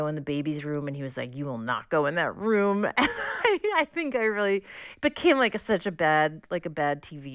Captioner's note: laughter